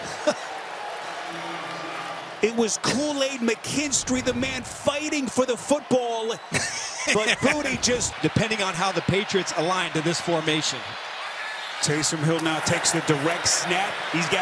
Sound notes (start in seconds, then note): 6.5 laughing